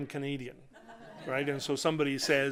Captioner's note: laughter